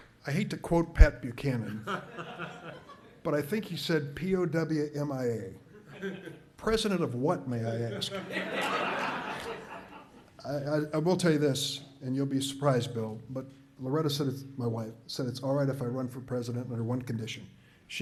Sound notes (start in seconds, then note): 1.7 audience laughs; 7.8 audience laughs